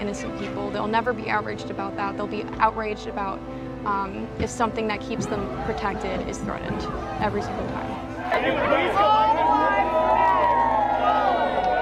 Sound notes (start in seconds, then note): 8.4 protestors clamoring